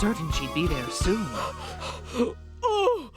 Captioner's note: panting